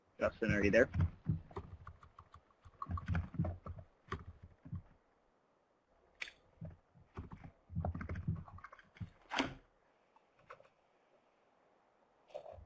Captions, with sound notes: - Justin are you there? (muffled mike sounds) (keyboard clicks)